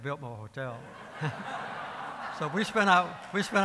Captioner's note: laughing